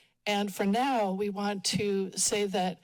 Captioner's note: none